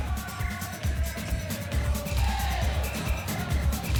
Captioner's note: audience chanting